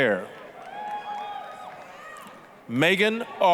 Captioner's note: applause, cheering